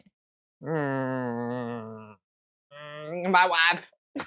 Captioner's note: grumpy noises